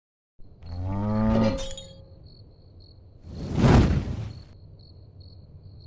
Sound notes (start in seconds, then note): 0.6 cow mooing; 3.4 loud thud